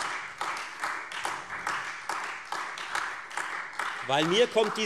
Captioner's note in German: Beifall Freie Demokraten und vereinzelt AfD